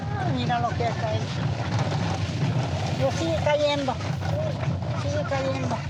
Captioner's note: speaking in foreign language